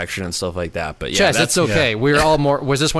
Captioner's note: laughs